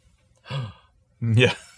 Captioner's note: gasp